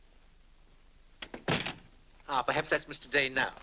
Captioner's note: door closes